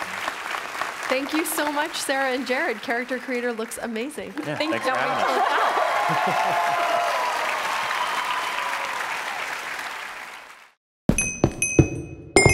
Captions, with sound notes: Thank you so much Sarah and Jared, Character Creator looks amazing. [Audience Applause]